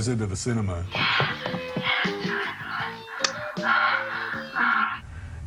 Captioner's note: woman In Film Moaning